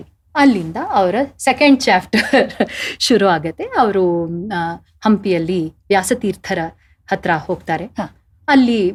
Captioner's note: laughing